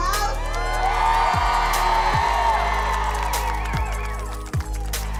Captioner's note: protesters cheering